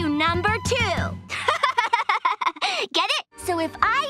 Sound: laughing

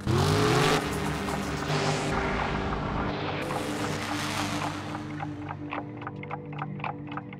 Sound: engines revving

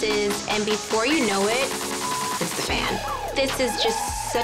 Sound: beep

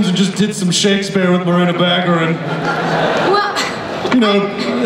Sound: laughter

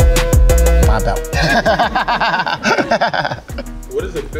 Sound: Leon laughs

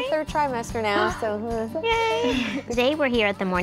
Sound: gasps

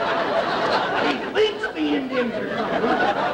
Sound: audience laughter

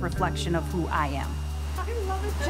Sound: blower chiming

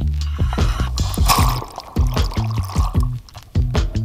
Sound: water splashing

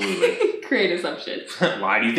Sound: laughs

